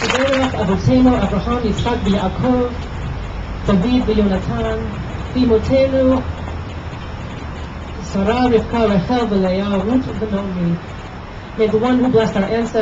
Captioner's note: applause; Hebrew